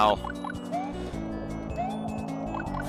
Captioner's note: breathing